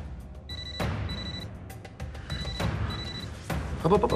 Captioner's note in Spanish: Suena el celular